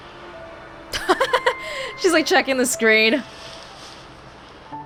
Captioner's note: chuckles